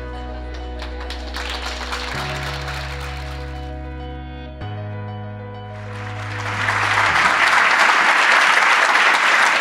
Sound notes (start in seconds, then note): 0.5 applause; 5.8 applause